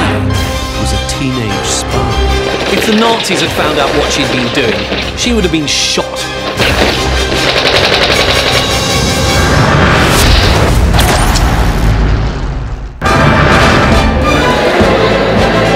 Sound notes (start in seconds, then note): 6.3 dramatic music; 6.4 guns roaring; 10.4 electricity sizzling; 10.4 suspenseful music; 13.6 bright music